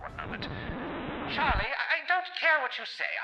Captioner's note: record scratch, shouting away from the microphone